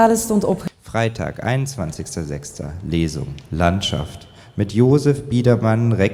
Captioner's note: speaker speaking in a foreign language